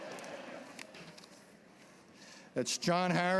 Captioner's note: laughter